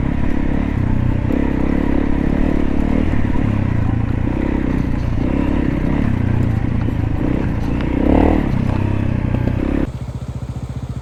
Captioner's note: engine sounds